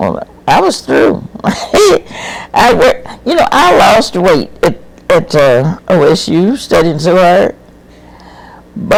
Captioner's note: laughs